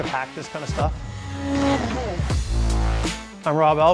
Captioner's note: sled whirring; intense music